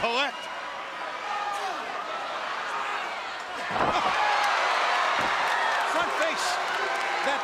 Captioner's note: crowd cheering